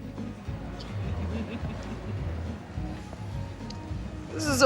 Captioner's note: laughs